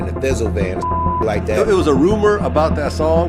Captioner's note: beep